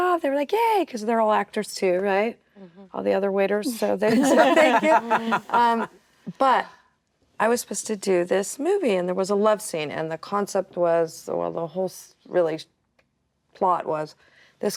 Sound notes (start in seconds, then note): 4.0 actresses laughing